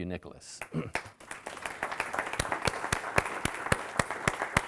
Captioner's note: audience applauding